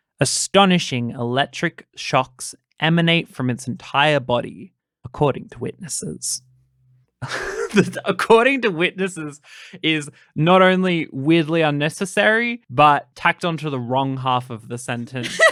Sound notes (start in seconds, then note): 7.2 laughing